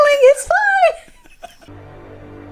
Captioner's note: laughing; ominous music